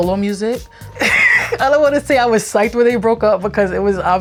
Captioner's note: laughs